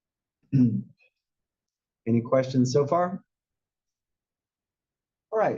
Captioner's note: cough